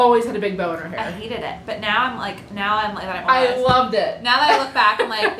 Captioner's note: laughter